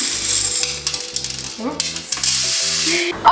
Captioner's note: popcorn clacking